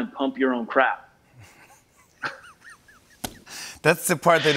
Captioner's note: laughing